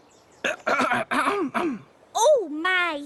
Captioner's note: clears throat